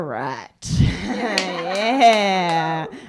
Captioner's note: laughter